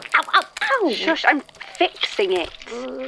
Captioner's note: crackling and squishing sounds